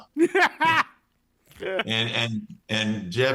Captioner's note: laughs